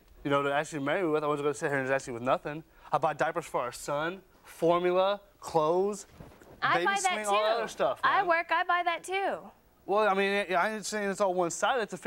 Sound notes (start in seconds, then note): none